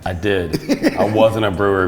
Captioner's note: laughing